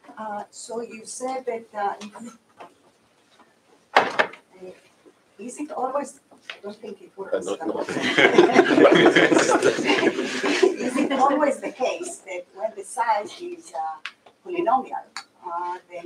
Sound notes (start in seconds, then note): 7.8 laughter